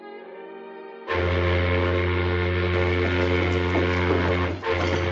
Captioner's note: boat horn blowing